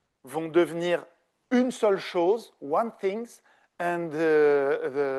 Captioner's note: speaking French